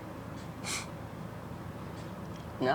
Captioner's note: scoffs